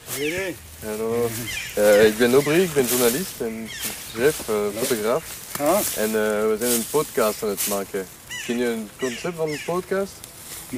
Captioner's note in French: Bruits de conversations indistinctes en néerlandais